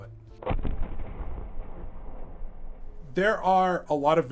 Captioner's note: thunderous booming